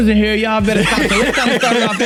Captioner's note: laughing